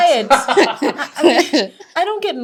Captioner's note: all laughing